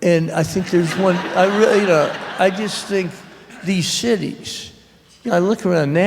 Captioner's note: laughter